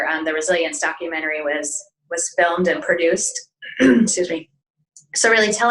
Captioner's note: clears throat